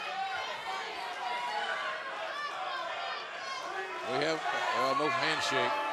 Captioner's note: fans chanting